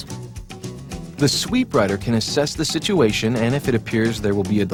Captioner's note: voiceover